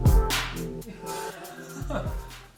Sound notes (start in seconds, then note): 0.8 laughs